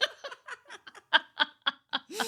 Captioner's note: laughing